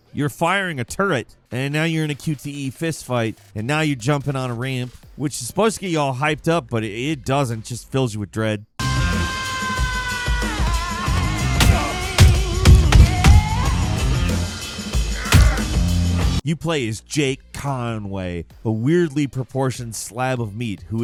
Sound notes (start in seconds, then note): 8.8 robust music; 8.9 fist slams